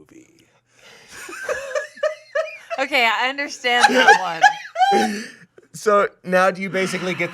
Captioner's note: laughing